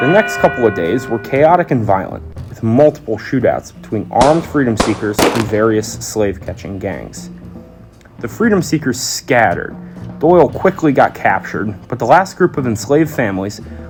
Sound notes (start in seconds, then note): 0.0 alarm rings; 4.2 gunshot noises